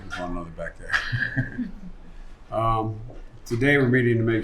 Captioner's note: laughter